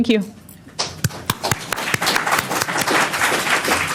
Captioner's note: applause